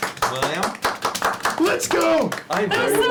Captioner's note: clapping